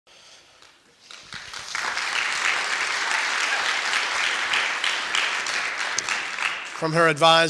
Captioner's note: clapping